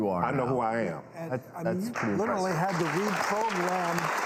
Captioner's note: audience clapping